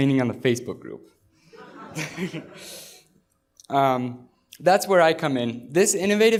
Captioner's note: laughter